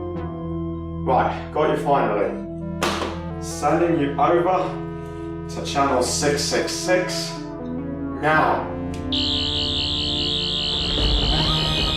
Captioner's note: buzzing and thunder sounds